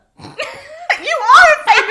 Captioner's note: both laugh